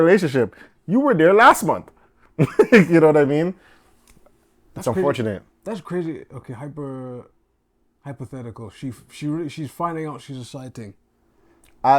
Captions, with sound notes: This is a reoccurring relationship. You were there last month. (laughing) You know what I mean? It's unfortunate. - That's crazy. Okay, hyper, hypothetical. She's finding out she's a side thing.